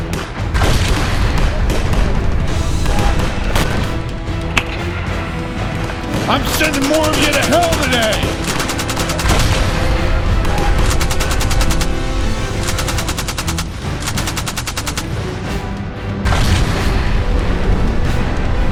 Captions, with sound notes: (explosion bang) I'm sending more of you to hell today! (explosion bangs) (gunfire rattling)